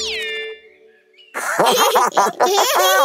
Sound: giggling

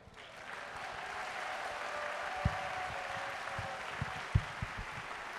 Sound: audience cheering and clapping

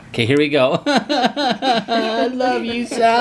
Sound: imitating crying

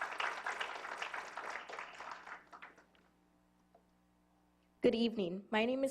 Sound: applause

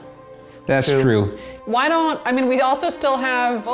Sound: none

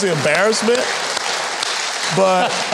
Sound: audience clapping

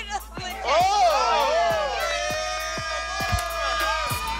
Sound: all cheering

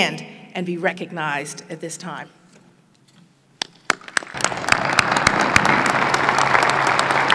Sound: applause

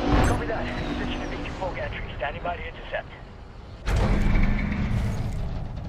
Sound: radio

